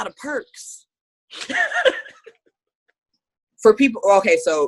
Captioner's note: laughing